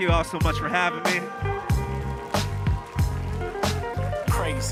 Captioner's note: audience applauding